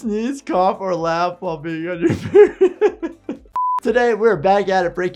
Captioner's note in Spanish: risas